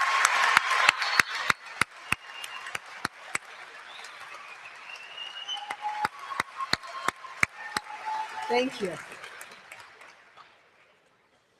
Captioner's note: applause